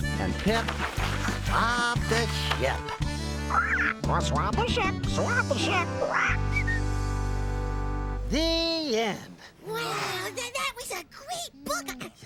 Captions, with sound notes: ( squawks ) ( whistles ) WOW! THAT WAS A GREAT BOOK.